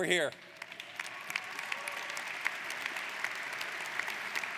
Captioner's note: audience applauds